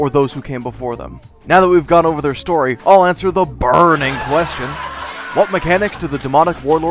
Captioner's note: laugh track